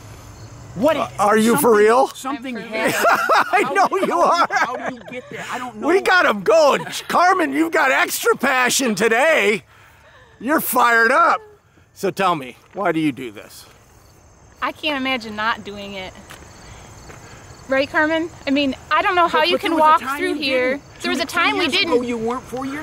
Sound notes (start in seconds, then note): 2.6 laughing